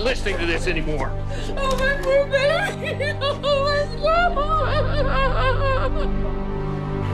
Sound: sobbing; tense music

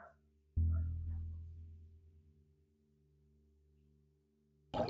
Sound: water bubbling

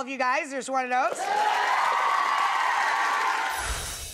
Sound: audience cheers

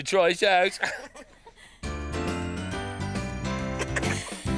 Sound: giggles; laughing

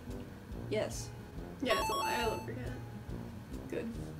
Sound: correct ding

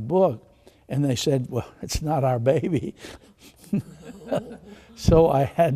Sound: laughs

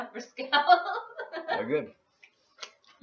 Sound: laugh

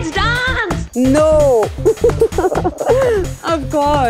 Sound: both laughs

